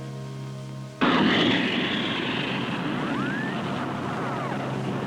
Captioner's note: rocket rumbling